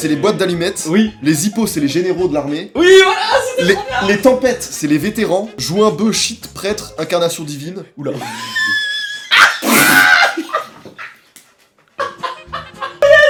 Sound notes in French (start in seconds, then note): 8.2 encore des rires; 8.2 rire chelou